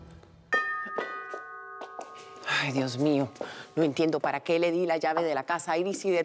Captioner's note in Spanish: Timbre de la puerta